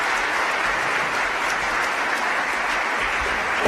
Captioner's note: applause